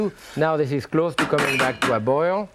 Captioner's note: spatula bangs